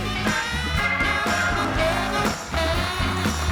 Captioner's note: upbeat music; audience cheering; audience applauding